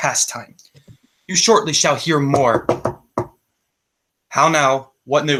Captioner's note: knocking on the table